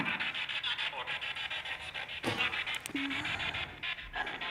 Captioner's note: spirit Box crackling